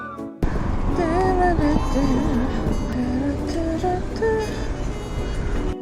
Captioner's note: humming a tune because I'm in a good mood